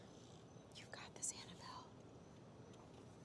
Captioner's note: whispering